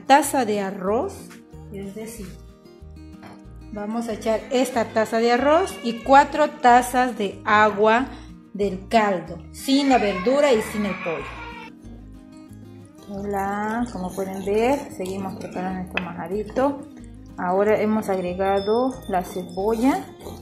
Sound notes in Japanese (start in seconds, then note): 9.8 息子さんの泣く声